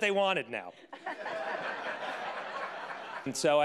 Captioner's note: audience laughing